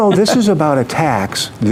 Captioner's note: laughing